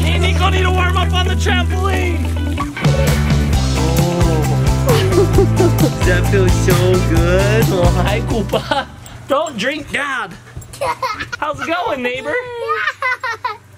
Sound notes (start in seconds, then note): 4.8 mom laughs; 10.7 child laughs